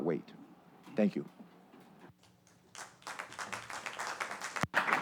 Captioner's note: applause